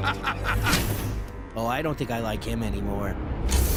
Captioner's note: cackles